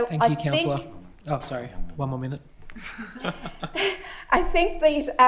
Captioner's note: laughs